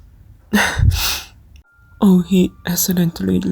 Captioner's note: his weeping is dying down